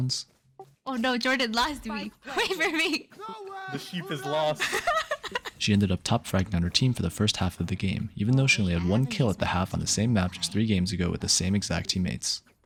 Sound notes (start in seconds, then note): 2.3 laughing